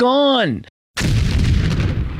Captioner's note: explosion